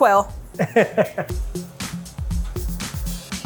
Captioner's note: chuckles; upbeat music plays